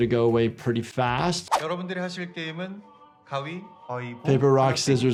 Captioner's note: recruiter speaking in Korean